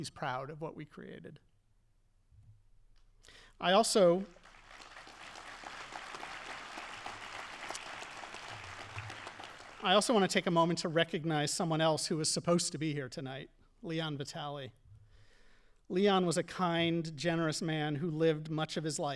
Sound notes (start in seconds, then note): 4.2 audience appauding